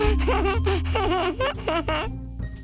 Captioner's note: laughing